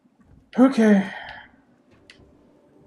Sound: sighing

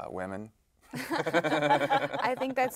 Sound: they Laugh

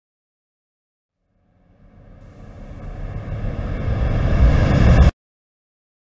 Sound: sound of riser build up

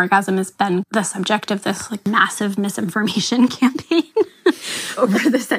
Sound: laughs

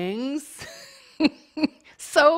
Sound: chuckling

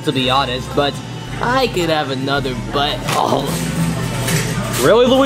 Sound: munches

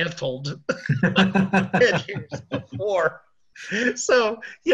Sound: both laughing

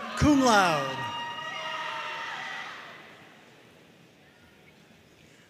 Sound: audience cheering and applauding

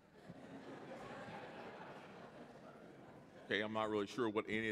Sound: laughter

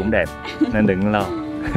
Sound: laugh

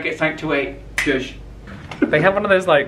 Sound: fingers click

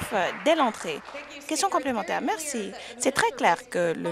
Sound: some Applause

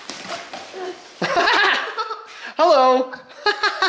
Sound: laughs

